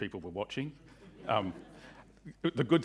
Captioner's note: audience chuckling